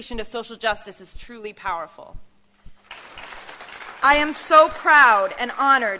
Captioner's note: applause